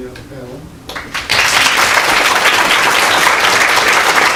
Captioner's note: applause